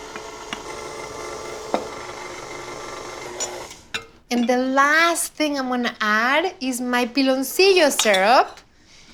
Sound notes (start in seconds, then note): 3.1 whirring stops